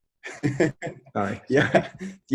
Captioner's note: laughs